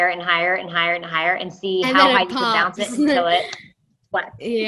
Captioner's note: clap